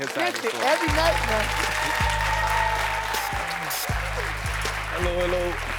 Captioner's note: audience cheering